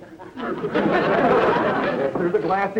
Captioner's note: audience laughter